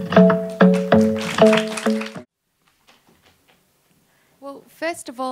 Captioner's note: audience applauding